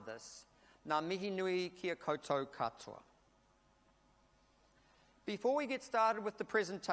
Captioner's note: speaks in a foreign language